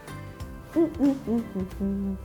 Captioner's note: humming